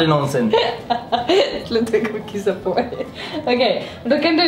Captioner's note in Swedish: skrattar